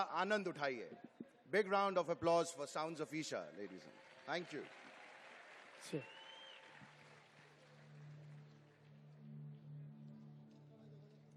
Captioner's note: applause